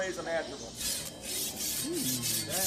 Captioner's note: scrapes